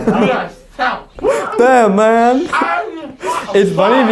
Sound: mocking

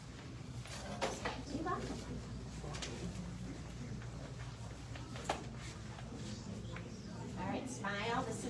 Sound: indistinct chatter

